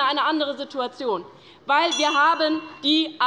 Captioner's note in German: Unruhe - Glockenzeichen des Vizepräsidenten